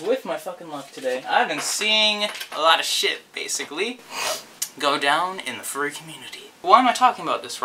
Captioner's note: snifff